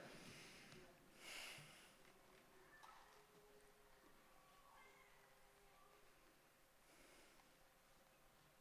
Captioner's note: cheering